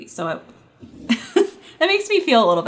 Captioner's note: giggles